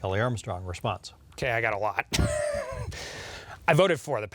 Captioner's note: laughs